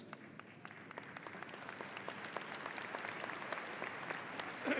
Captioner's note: audience applauding